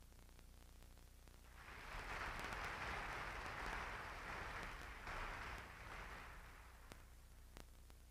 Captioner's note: applause